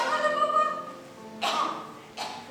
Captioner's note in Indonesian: Batuk